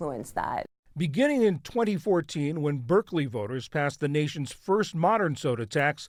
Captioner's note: voice-over